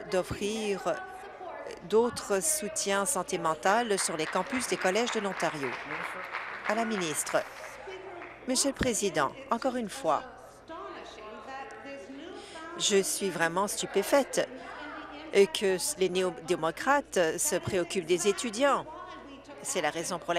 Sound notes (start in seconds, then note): 8.6 applause